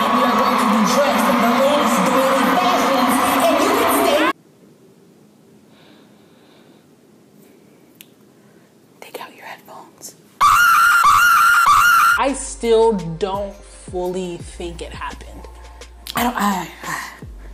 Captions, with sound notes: We are going to be dressed in the latest doily fashions, and you can stay- (whispers) Take out your headphones. (screaming) I still don't fully think it happened.